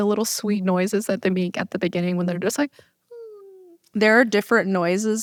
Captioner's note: cooing noise